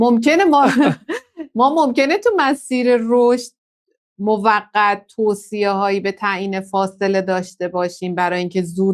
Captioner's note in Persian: خنده